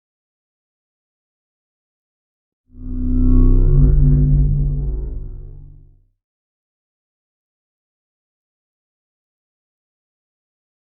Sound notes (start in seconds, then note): 2.8 spacecraft whirring